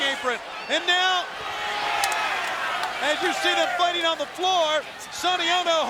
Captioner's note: applause